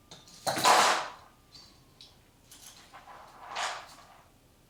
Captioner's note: shackles clanging